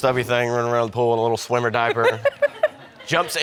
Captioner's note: chuckles